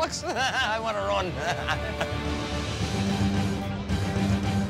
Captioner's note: laughs; intense music